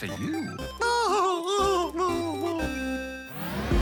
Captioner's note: laughs